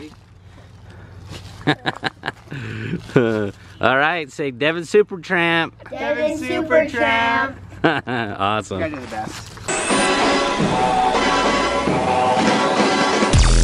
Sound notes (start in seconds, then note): 1.5 laughs; 7.6 laughs; 9.7 spy music